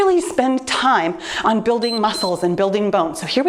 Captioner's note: timer beeps